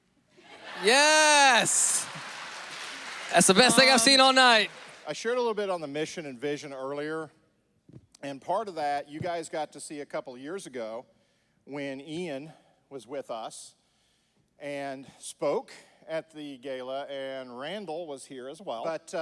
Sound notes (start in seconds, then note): 0.5 audience laughs